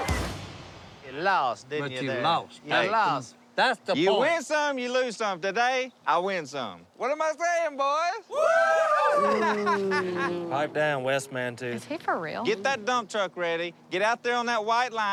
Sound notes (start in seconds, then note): 8.3 cheering; 8.3 booing